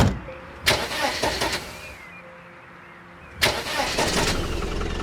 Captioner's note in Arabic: يعمل المحرك